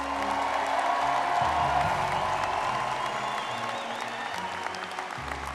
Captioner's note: audience clapping and cheering